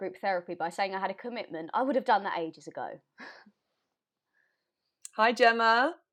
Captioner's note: laugh